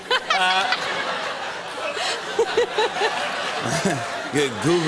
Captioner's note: laughter